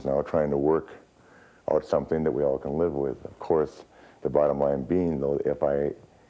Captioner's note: none